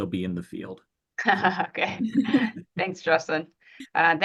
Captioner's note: laughs